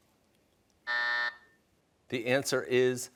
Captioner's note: buzzer